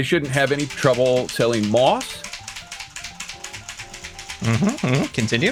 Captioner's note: keyboard furiously clacking; keyboard hammering continues